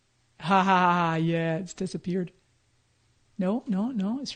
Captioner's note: laughs